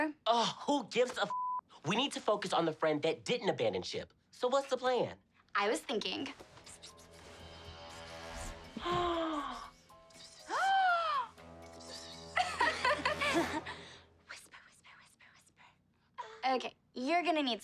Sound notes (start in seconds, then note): 5.4 whispering; 8.8 gasps